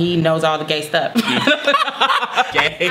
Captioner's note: laughing